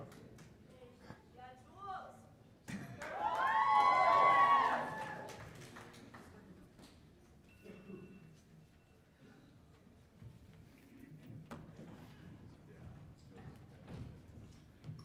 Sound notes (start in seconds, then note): 4.4 cheers and applause